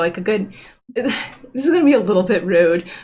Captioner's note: chuckles